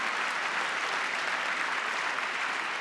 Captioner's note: applause